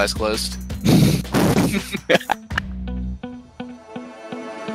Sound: laughing

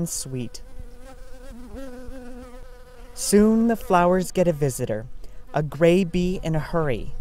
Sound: buzzing

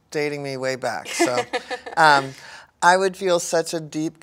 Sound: laughs

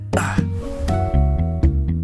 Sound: struggles

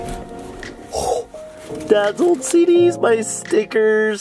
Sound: gasps

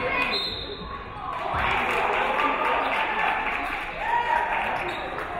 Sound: referee whistles; audience clapping

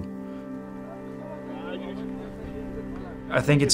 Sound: players chatting

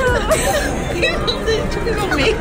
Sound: laughing

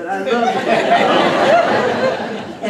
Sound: laughter

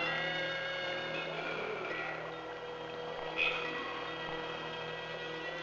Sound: water flowing

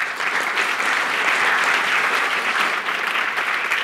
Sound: applause

